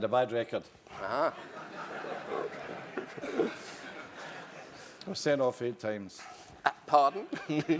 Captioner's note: laugh